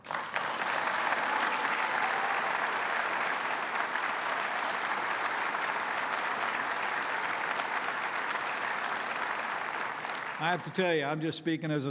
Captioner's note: applause